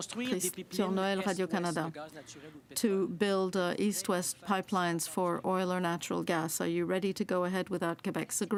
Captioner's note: speaking french